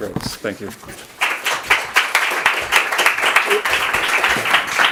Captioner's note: audience applauds